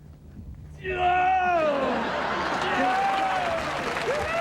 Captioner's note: man groaning